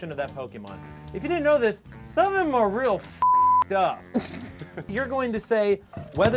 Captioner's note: beep